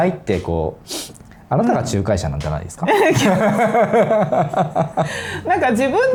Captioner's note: laughs